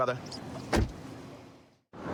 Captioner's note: door shuts